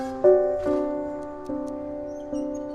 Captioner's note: ticking